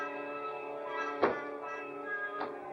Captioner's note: playful music; shoe thumps